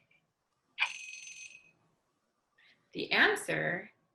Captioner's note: alarm rings